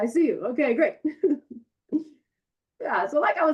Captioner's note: chuckles